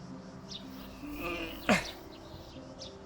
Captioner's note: moaning for the physical effort